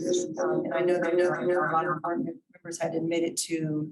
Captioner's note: audio warping